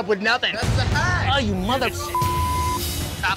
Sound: beep

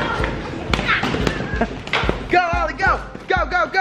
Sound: popping

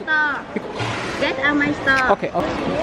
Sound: speaking Vietnamese

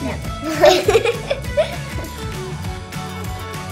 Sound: both laughs; upbeat music ends

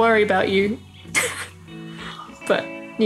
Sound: laughter

